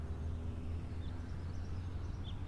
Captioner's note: birds chirping